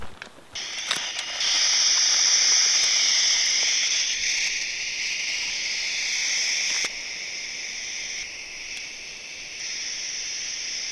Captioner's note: hard static